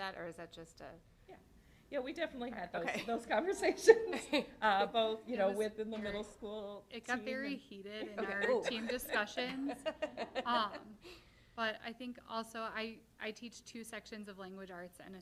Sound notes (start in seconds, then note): 10.0 laughter